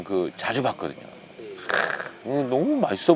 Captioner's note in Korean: 감탄